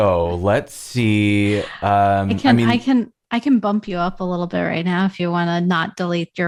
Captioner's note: laughter